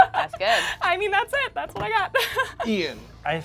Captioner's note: laughs